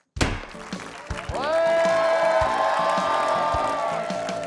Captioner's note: cheering